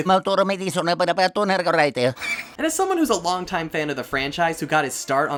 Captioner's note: italian speak